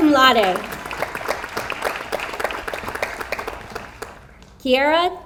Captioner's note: audience applauds